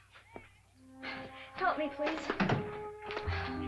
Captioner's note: door closes; romantic music